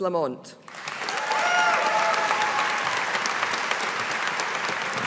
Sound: audience applauding

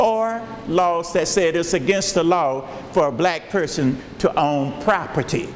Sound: none

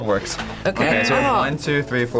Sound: buzzer rings

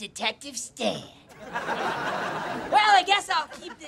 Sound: laughing

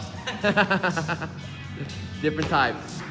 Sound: laughs

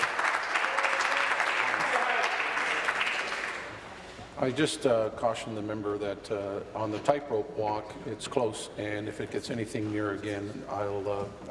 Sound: applause

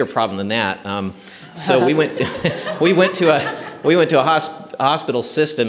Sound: laughter

